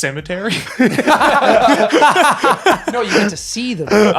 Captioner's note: laughing